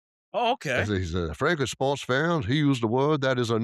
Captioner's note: in southern accent